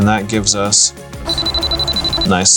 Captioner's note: beeps